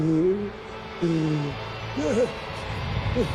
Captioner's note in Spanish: Quejidos